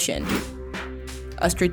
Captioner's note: air whooshes